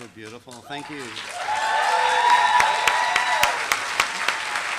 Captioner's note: applause